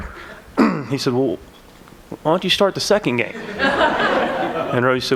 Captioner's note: laughter